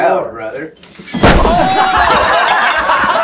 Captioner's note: loud bang; laughs